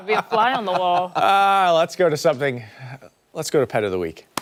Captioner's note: laughter